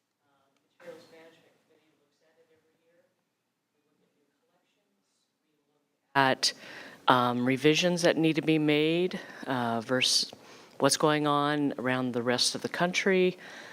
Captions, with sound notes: Um... Materials Management Committee looks at it every year. We look at new collections, we look (mic turns on) at, um... revisions that need to be made, uh... versus what's going on around the rest of the country.